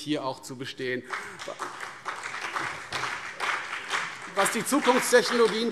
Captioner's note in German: Beifall CDU und BÜNDNIS 90/DIE GRÜNEN